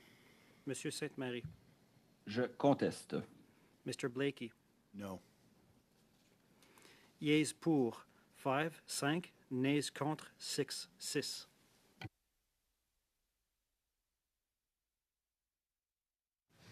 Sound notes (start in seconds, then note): 7.9 speaking French